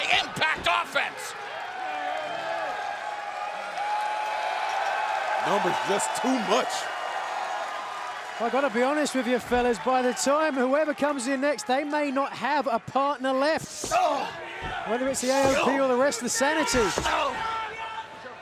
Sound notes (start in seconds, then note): 3.0 fans cheering; 7.3 fans cheering; 13.6 wrestler grunts; 15.1 boot thuds